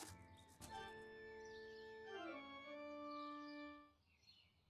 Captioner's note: birds chirping; phone rings